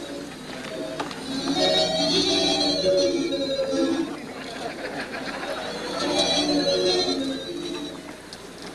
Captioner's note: time travel noises